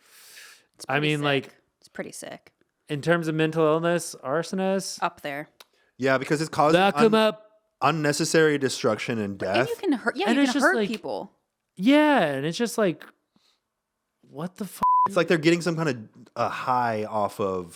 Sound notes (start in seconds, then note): 14.8 beep